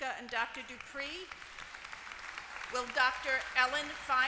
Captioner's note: applause